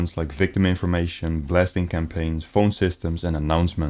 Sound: none

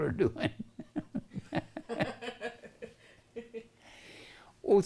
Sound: laughter

